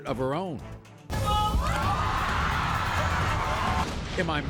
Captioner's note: audience yelling